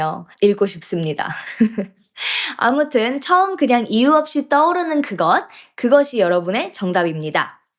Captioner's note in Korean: 웃음